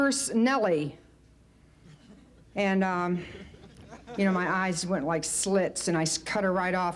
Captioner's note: light laughter; light laughter